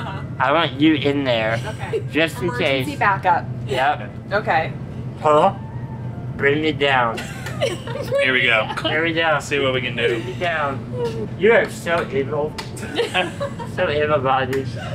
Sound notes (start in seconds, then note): 1.5 laughs; 8.7 laugh; 12.8 all laugh